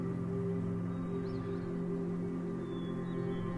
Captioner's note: birds chirping